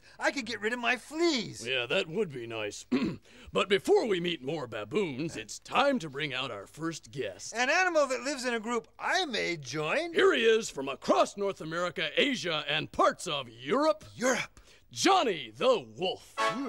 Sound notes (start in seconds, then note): 2.9 clears throat; 16.3 trumpets blow